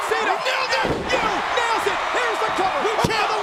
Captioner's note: body thudding